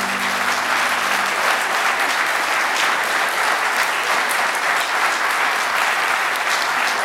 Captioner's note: applause